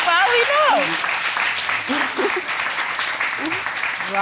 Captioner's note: chuckles